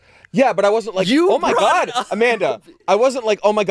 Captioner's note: laughs